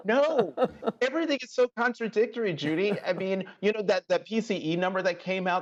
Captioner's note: laughter